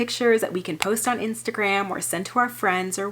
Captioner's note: graphic clicking